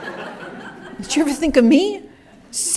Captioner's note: laughter